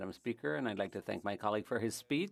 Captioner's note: speaking FRENCH